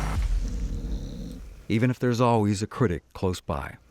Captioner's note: snoring